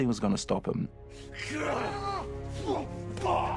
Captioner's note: grunting